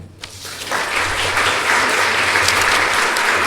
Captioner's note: applause